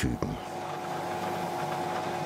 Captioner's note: whirring